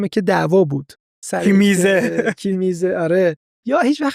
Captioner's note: laughs